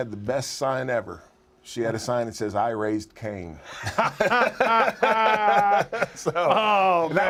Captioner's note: laugh